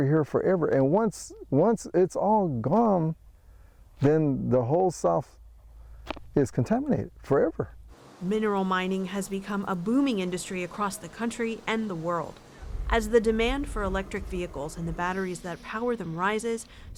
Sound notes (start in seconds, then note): 8.6 voice-over